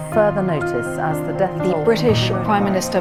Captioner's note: speech fades out